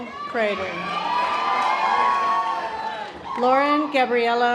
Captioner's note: audience applause